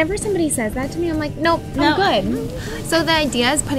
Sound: murmurs

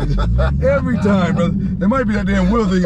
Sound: laughing

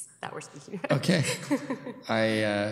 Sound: laughs

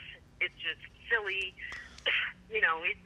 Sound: coughs

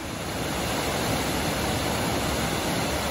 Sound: waterfall

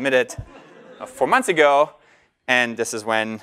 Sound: laugh

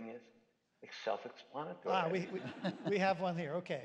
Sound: laughter

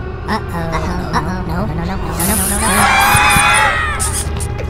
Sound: screams

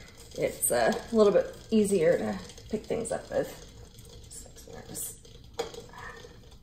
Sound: can crushes

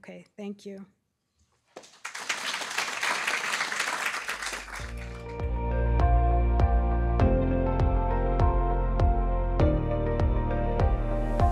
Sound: applause

